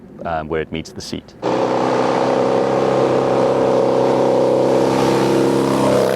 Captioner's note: engine roars